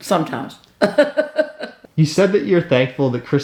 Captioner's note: mother giggles